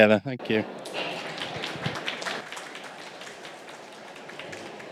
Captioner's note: applause